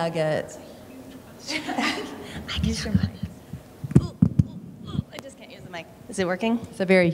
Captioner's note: laughter